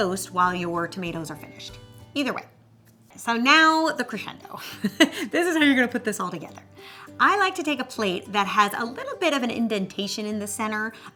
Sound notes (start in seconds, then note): 4.5 laughs